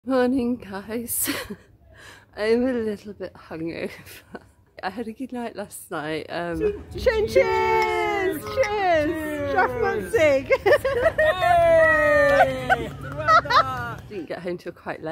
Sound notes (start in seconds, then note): 10.2 laughter; 11.4 cheering